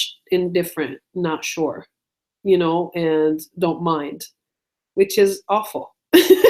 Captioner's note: laughs